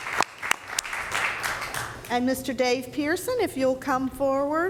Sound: applause

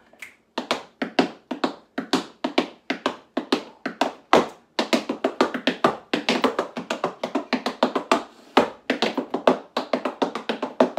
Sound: tap dancing

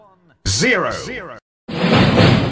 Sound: echo

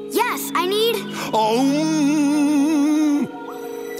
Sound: chanting

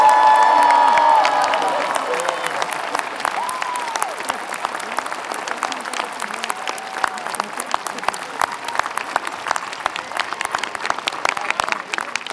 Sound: applause

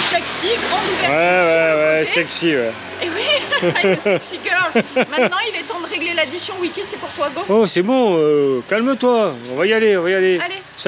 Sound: laughs

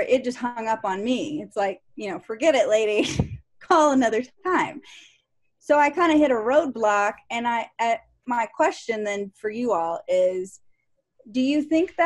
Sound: laughter

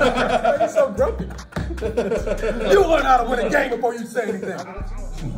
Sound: laugh

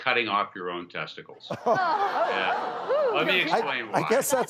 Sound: audience gasping

